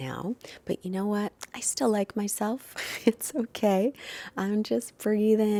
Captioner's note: chuckles